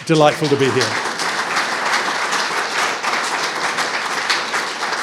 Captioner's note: audience clapping